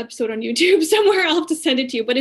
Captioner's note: laughing